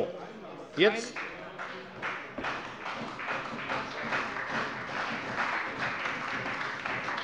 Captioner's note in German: Beifall bei der CDU und dem BÜNDNIS 90/DIE GRÜNEN